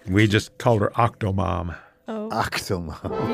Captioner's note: laughs